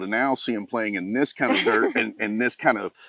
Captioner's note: laughs